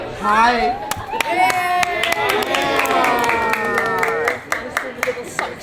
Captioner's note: crowd cheering